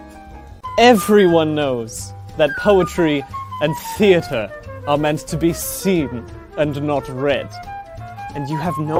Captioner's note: posh voice